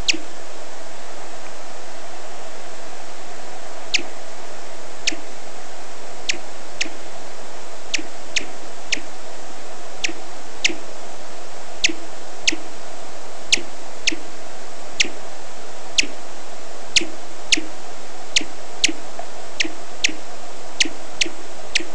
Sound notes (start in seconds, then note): 0.0 bat chirp; 4.2 faster chirping; 16.6 even faster chirping